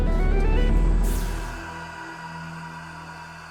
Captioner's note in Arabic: موسيقى محيطة متوترة; صراخ